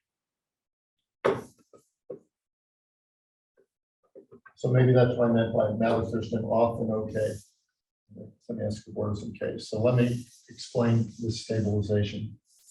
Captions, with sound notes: (chalkboard taps loudly) So maybe that's what I meant by Mather-Thurston, often okay, in the sem-S-cobordism case. So let me explain the stabilization.